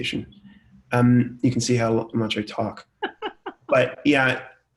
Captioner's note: laughs